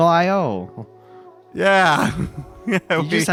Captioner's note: nervous laughter